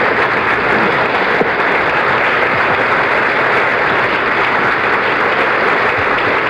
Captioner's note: applause continues